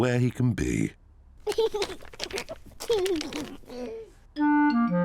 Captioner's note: stifled giggling